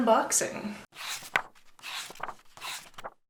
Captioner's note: pages turning